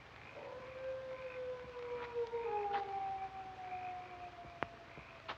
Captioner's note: hound howling